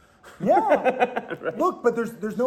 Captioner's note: laughing